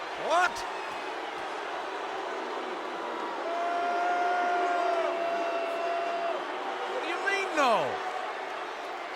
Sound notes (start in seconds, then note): 2.0 audience booing